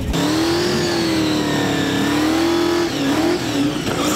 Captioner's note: engine revving